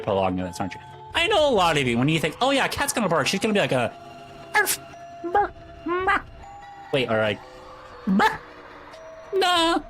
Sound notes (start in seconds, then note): 4.6 arf; 5.3 bark; 8.3 barf